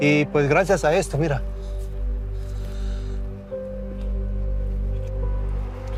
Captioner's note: continues speaking in Spanish